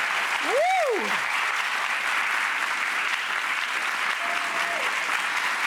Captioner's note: audience clapping